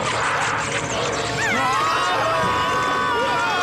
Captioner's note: all screaming